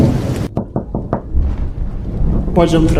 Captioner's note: knocking on the door